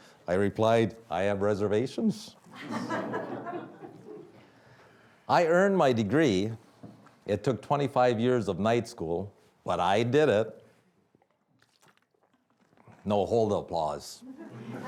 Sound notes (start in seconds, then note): 2.5 audience laughing